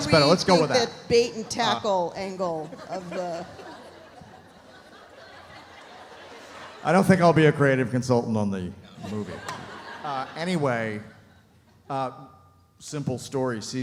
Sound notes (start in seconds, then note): 2.4 audience laughs